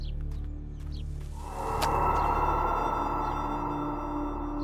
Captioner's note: eerie whooshing